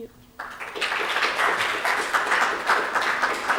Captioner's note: applause